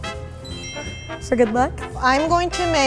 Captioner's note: bells ringing